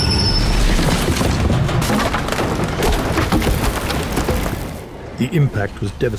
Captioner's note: brakes squealing; interior fittings clattering